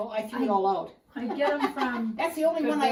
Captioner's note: laughter